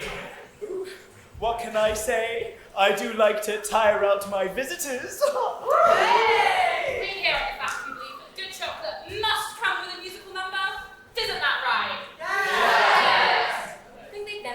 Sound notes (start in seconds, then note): 5.6 audience whoop